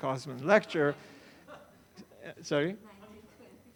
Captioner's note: audience laughs